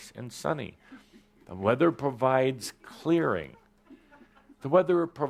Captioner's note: some laughter